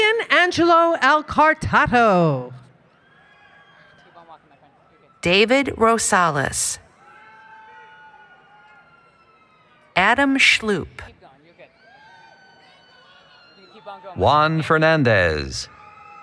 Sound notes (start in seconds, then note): 7.2 applause, Cheering